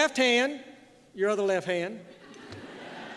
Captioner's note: laughter